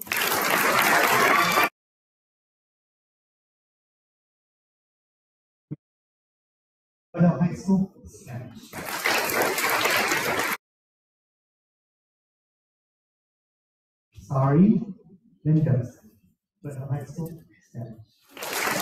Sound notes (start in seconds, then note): 0.0 audience applauding; 8.7 audience applauding